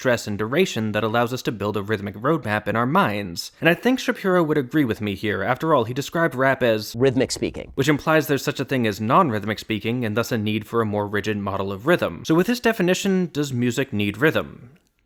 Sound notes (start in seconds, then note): 6.5 SHAPIRO: "rhythmic speaking"